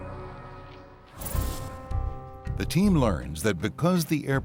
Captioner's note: whooshing